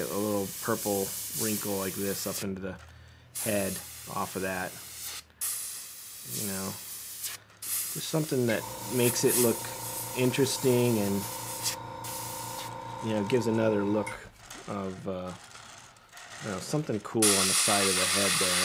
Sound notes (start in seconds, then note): 5.4 hissing; 8.4 motor whirring; 13.9 rattling